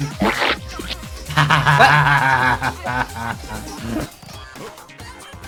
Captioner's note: laughs